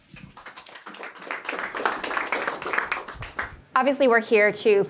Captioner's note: audience applauds